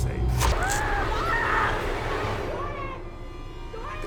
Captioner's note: intense music; Chris screaming